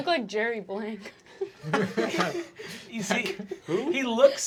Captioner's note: everyone laughing